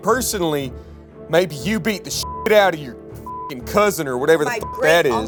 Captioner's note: beep